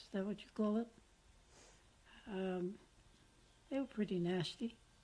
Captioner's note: pauses for 3 seconds